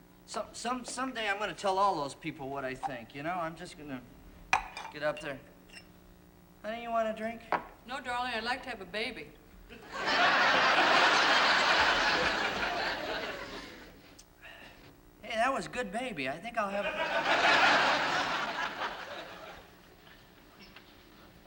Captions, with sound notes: Someday I'm gonna tell all those people what I think, you know? I'm just gonna get up there... Honey, you want a drink? No, darling. I'd like to have a baby. [ Laughter ] Hey, that was good baby. I think I'll have... [ Laughter ]